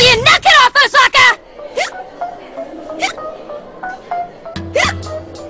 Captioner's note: Osaka hiccuping